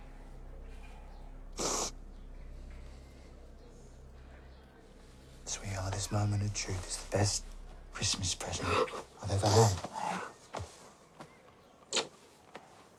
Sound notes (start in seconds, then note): 6.9 sniffles